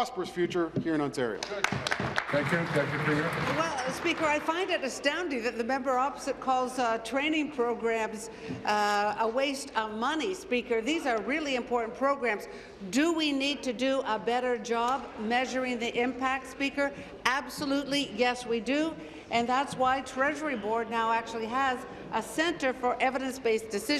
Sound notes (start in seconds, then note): 4.9 applause